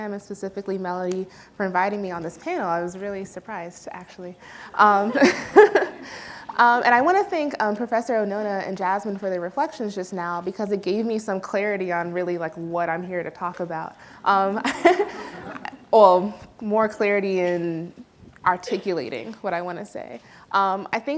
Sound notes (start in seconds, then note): 4.8 laughs; 4.9 audience laughs; 14.6 audience laughs; 14.6 laughs